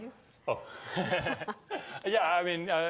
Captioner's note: both chuckle